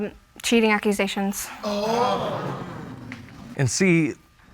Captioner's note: audience gasps